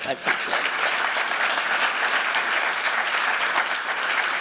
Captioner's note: applause